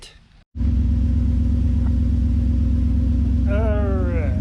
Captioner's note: truck rumbling